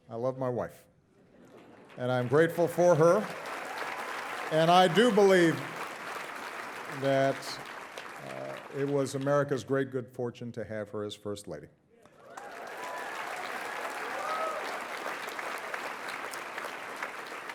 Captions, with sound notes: I love my wife. And I'm grateful for her. (audience applauding) And I do believe that it was America's great good fortune to have her as First Lady. (audience applauding and cheering)